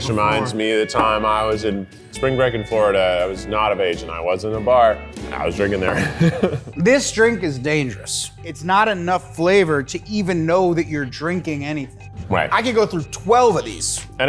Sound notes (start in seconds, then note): 5.9 laughs